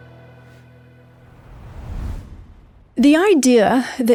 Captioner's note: dramatic music; air whooshing